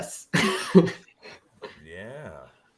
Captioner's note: laughs